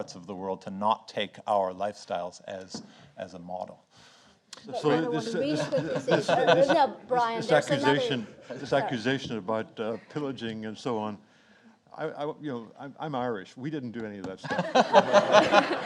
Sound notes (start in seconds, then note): 4.7 everyone chattering